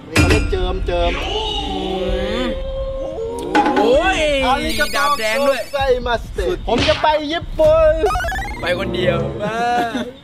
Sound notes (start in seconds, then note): 4.6 speaking Japanese